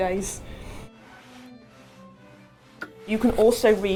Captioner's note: iron scraping